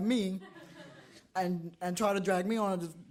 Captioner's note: audience laughs